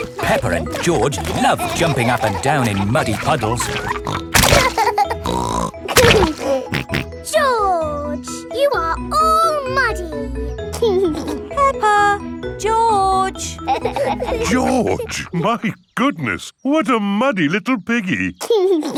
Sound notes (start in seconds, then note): 4.5 laughs and snorts; 10.8 giggling; 18.4 giggles and snorts